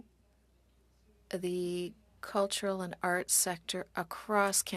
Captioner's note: speaking French